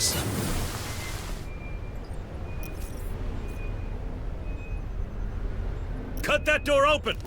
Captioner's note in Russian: приглушённые звуки воя ветра за стенами